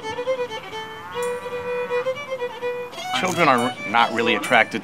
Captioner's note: cow moos